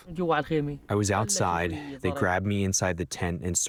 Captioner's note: through translator